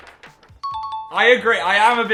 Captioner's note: ding